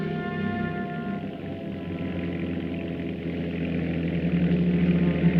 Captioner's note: engine rumbling